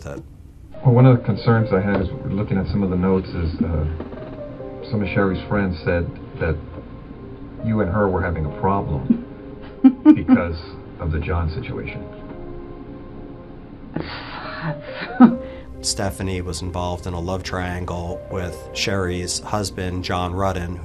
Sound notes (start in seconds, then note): 9.6 laughing; 14.0 sighing heavily and chuckles